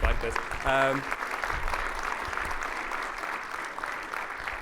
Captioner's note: audience clapping